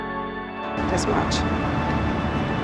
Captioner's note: voiceover